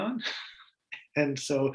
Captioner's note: laughs